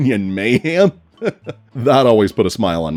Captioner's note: chuckles